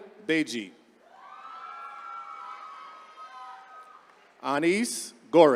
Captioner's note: attendees cheering